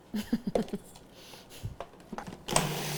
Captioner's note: laughs